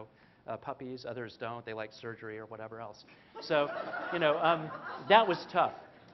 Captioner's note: laughter; 笑聲